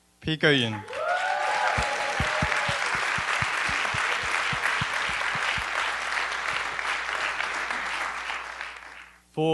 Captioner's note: applause